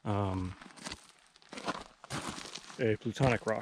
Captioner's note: footsteps thumping